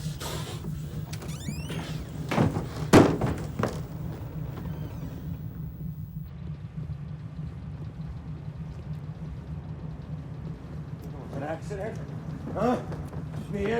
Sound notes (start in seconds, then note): 0.0 Jim panting; 0.0 door creaking; 2.1 door rattling; 6.5 insects chirping